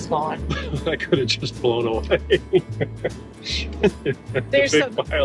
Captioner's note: laughing